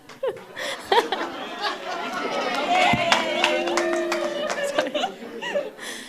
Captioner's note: laughter and applause